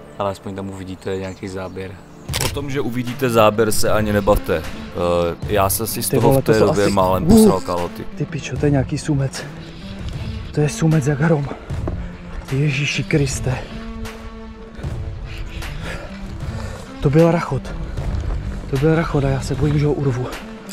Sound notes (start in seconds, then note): 5.6 A bit of swearing in the background